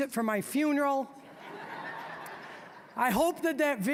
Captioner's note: audience laughing